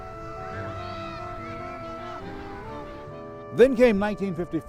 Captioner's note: children squealing; jazz music